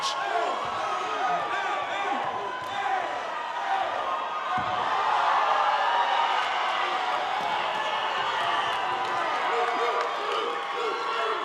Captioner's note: cheering and applause